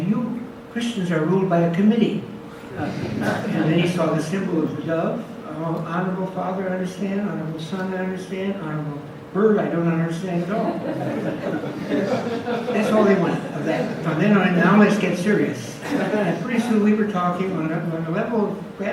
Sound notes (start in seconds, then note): 2.8 audience laughs; 10.4 audience laughs